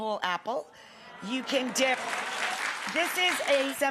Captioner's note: audience clapping